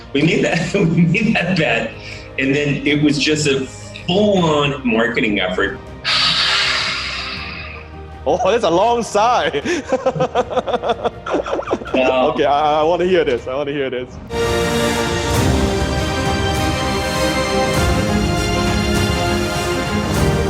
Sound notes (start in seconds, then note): 6.0 sighs; 9.5 laughs; 14.5 bright music